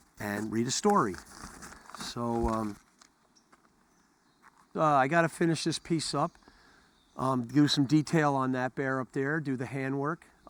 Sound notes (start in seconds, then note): none